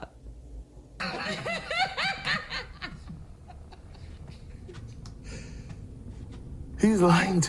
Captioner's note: laughter